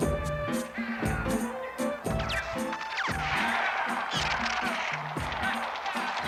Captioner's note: tv plays